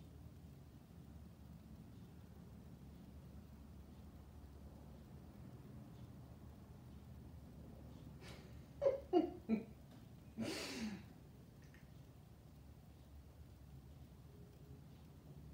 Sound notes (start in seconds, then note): 8.2 chuckles